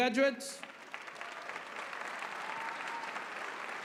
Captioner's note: applause